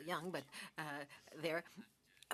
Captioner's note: speaking French